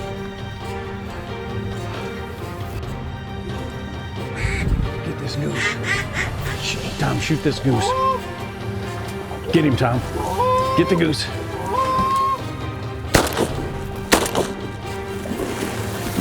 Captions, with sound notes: >>GET THIS GOOSE. (DUCK CALLS) >>TOM SHOOT THIS GOOSE. GET HIM TOM. (GOOSE CALL) (GUN SHOT) (GUN SHOT)